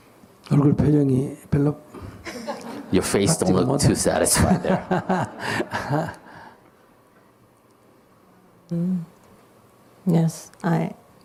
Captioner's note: /Audience Laughter